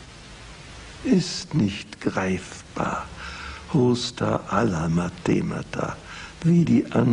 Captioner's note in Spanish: lo dice en griego